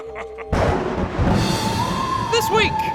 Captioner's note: laughs; thunderclap